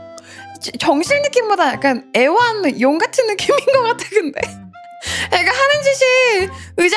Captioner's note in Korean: 웃음